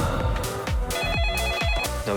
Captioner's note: ring ring